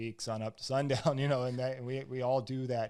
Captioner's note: laughs